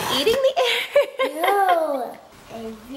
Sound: laughing

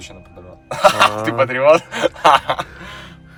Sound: laughter

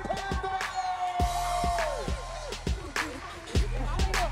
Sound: cheering and shouting

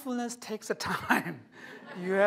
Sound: laughter

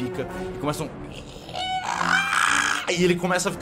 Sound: ieeeaaaa

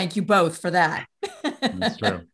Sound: laughs

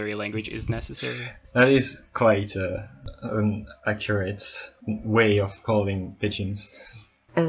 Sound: laughs

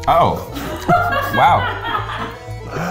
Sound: crew laughing

